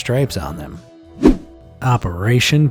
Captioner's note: image whooshing